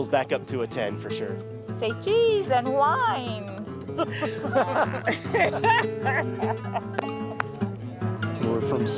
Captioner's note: laughing